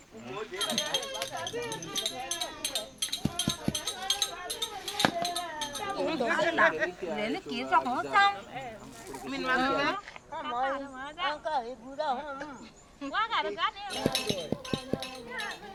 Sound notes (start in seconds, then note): 2.2 weaving sounds; 5.2 group chattering; 12.8 weaving sounds; 13.9 clicking sound